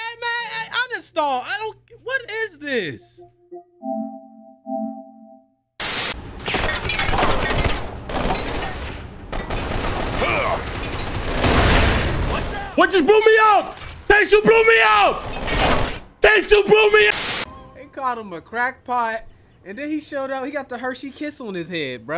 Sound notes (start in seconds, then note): 6.6 guns firing; 11.0 glass breaking